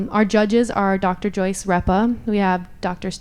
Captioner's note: none